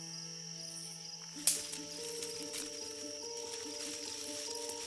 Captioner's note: footsteps